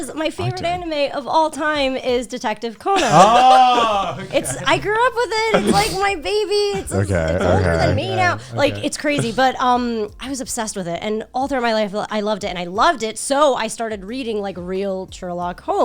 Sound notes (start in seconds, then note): 3.8 guys laughing